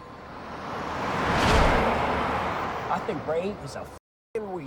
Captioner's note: car rumbling